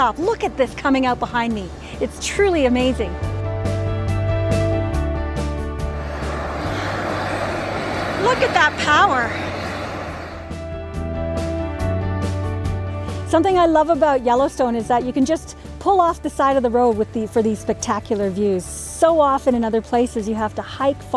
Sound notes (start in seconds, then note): 3.0 upbeat instrumental music plays; 5.9 geyser blows; 11.0 calm instrumental music plays